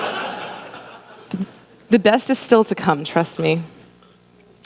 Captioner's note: laughter